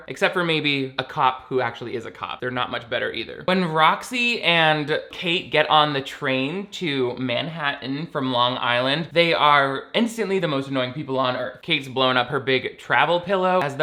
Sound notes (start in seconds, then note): none